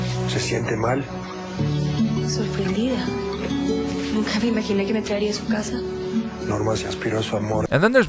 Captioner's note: spanish soap opera talk'y bits